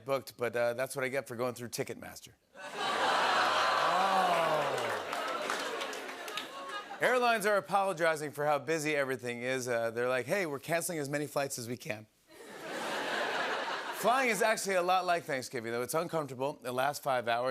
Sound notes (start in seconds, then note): 2.6 laughter; 4.4 audience "Oohs"; 12.3 laughter